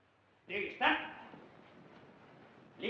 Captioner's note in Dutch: geeft bevel in het Duits